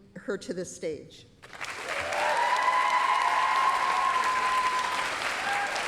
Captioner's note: applause, cheering